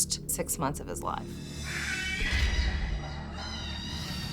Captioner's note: baby screaming